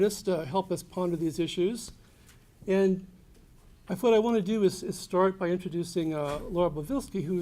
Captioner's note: none